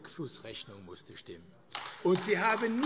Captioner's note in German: Beifall AfD